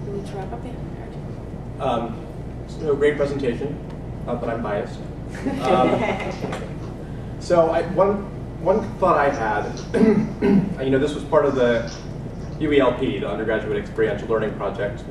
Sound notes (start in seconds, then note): 5.4 laugh; 9.9 cough